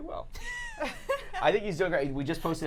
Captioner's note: laughing